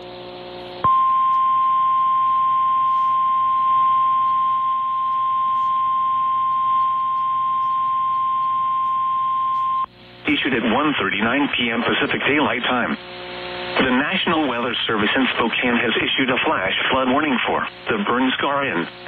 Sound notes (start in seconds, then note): 0.7 1050 HZ tone